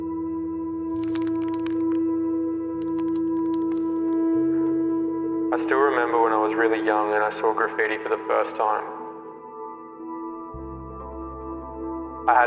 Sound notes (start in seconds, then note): 1.0 paint can rattles; 9.6 gentle music